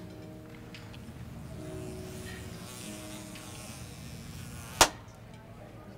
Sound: fly buzzing

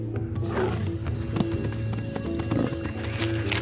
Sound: roars

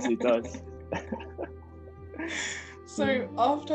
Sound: both laughing

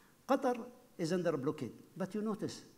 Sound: none

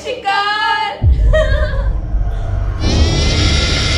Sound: laughing

